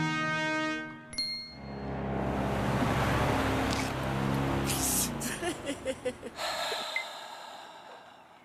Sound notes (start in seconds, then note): 5.2 chuckling; 6.3 sighs